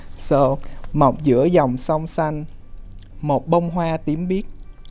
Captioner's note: non-english speech